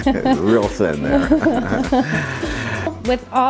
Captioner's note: laughing